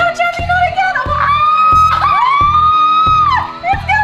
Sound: scream

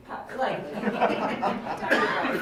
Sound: laughing

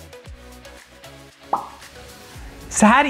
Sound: pop

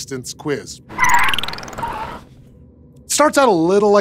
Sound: tires squealing

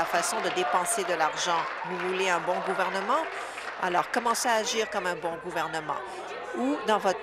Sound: applause

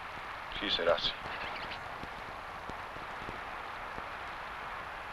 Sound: speaking foreign language

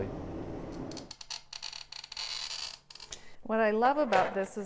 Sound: creaking

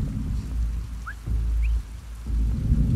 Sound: call whistle; hushed whistle

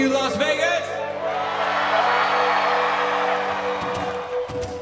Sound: audience cheers

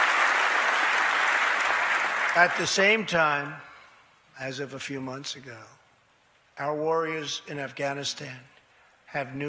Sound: applause

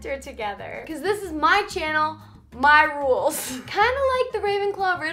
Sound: laughs

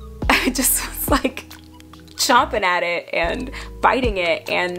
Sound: laughing

